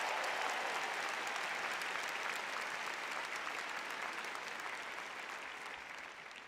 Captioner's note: audience cheers